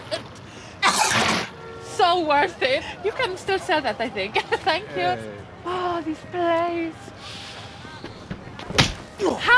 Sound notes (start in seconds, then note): 4.3 laughs